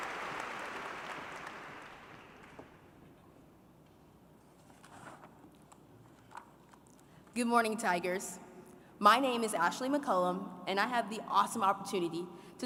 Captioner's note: applause